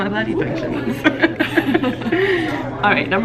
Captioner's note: both laughing